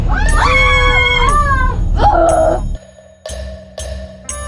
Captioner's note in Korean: 비명